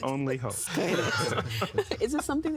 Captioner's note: laughing